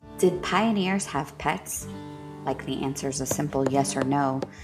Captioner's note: a dog's tail thumping the floorboards